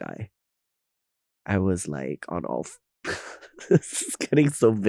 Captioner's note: Nymphia chuckling